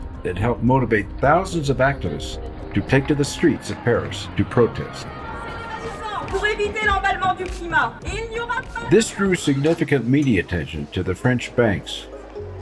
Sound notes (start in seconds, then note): 6.3 speaking french